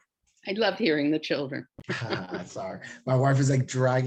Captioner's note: laughs